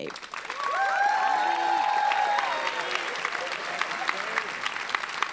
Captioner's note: applauding and cheering